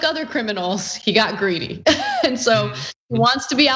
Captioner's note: laugh